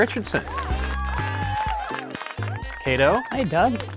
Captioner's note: applause